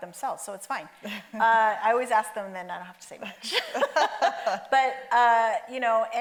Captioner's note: laughs